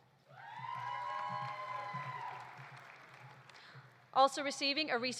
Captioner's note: audience cheering; audience applauding